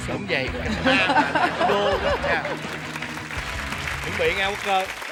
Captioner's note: laughing; applause